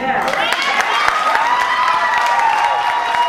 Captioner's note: audience applause and cheers